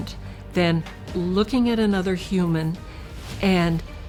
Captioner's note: none